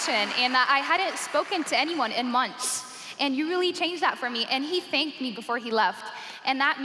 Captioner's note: cheers and applause